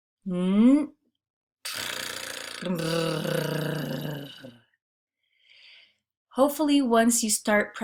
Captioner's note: making sound with air then 'r' trill sound